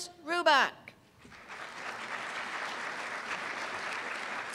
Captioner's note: applause